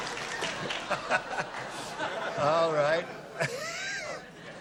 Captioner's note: laughter